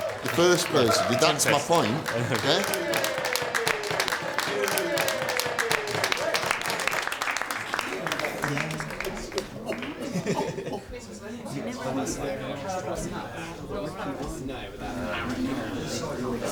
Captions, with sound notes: The first person. That's my point. Yeah. (Cheering and clapping) (Indistinct chatter)